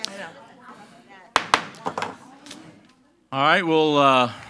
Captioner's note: gavel bangs